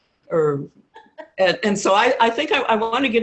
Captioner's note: laughing